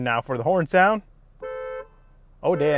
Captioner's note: horn honking